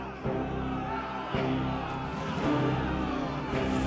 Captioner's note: men shout